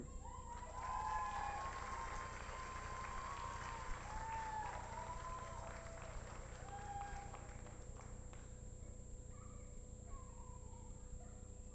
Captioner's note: applause